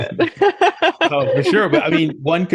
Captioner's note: both laugh